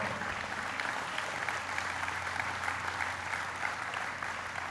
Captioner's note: applauding